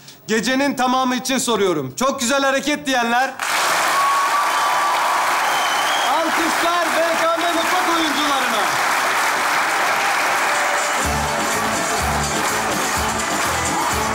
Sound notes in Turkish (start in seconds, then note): 3.3 Alkış ve ıslık sesleri